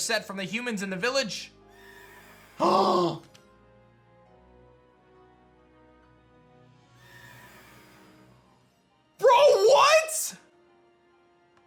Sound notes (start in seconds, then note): 1.8 gasps